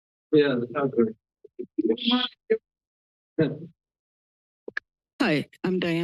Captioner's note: background chatter